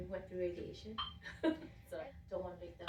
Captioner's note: laughter